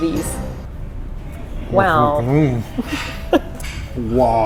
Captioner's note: laughs